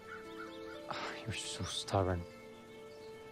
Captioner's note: sighs